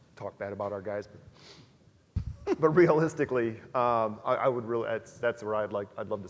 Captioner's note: laugh